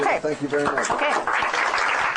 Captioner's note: applause